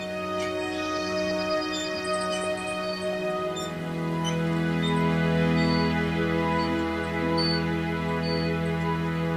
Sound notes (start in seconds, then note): 0.0 bicycle wheel squeaks